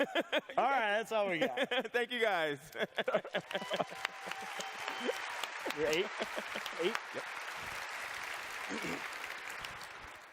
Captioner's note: applause